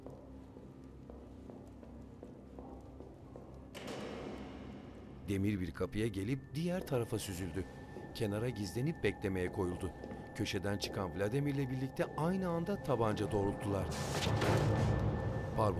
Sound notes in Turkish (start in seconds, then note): 0.0 Ayak sesi; 3.7 Kapı açılma sesi; 6.0 Ayak sesi; 6.0 Müzik - Gerilim